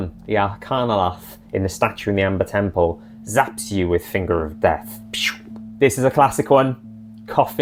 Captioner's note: pew